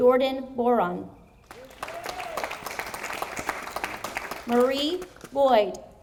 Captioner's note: audience applauding